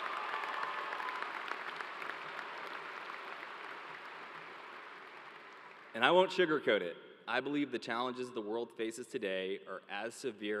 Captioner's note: cheers and applause